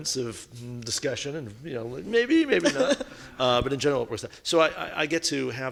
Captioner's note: laughing